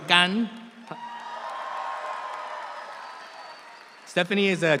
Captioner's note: audience cheers